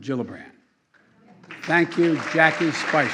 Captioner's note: applause